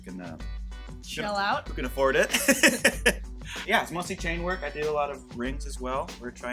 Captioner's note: laughs